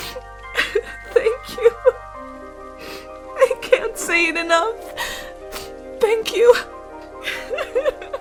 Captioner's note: crying; Iris crying